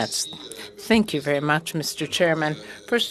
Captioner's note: speaking French